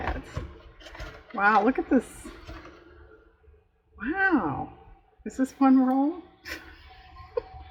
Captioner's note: laughs